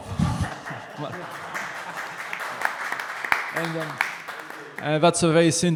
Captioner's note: audience applauding